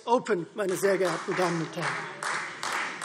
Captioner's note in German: Beifall Freie Demokraten